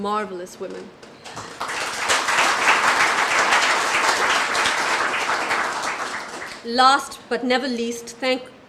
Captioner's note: applause